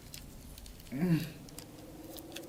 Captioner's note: struggling